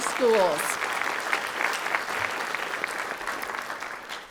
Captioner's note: audience clapping